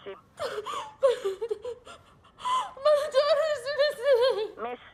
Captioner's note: sobbing